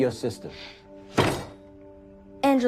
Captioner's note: thud